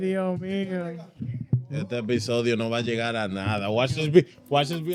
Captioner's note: speaking In Foreign Language; upbeat Music